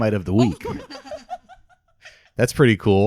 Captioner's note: laughing